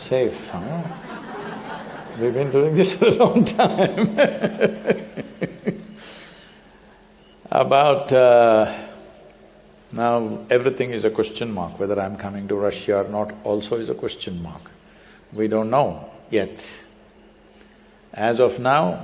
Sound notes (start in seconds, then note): 5.8 laughs